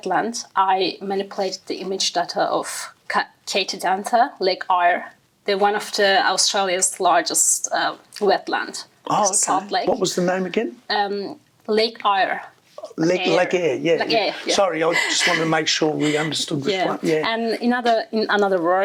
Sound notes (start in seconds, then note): 16.9 laughing